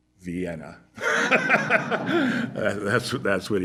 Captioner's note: laughter